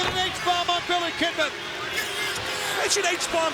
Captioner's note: crowd booing